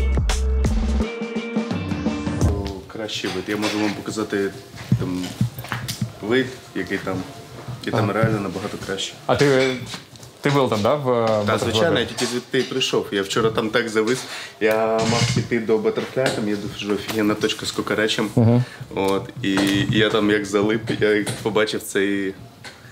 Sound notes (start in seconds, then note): 3.4 speaks Ukrainian; 9.2 speaks Russian